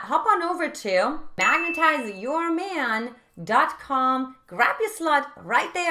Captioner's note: bell dinging